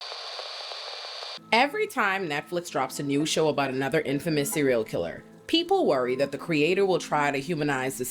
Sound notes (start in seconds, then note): 0.0 static